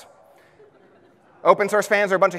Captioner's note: audience laughs